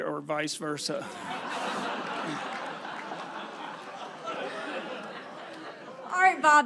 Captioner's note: crowd laughs